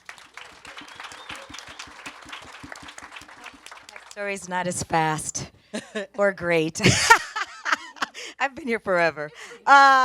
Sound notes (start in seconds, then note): 0.0 audience and panelists applaud; 6.8 laughs